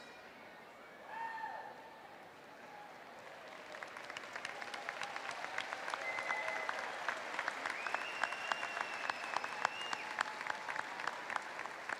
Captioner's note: applause